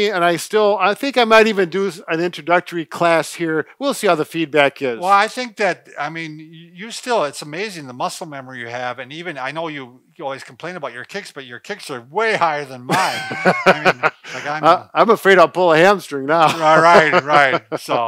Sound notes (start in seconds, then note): 12.8 laughing